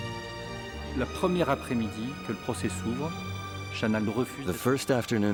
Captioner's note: speaks in foreign language